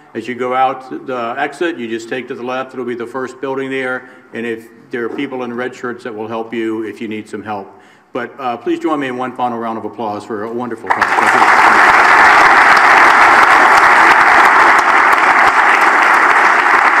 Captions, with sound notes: As you go out the exit you just take the left, it will be the first building there and there are people in red shirts that will help you if you need some help. But please join me in one final round of applause for a wonderful talk. (audience applauds)